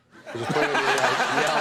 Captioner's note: crowd laughing